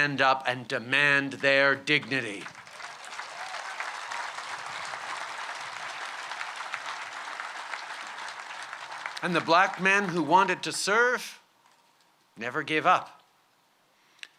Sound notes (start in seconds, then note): 2.2 cheers & applause